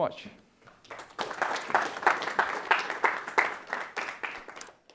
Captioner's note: audience applauding